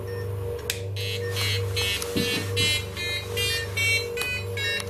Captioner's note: melodic beeping